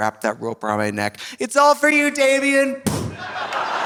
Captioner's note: imitates booming; audience laughing; audience applauding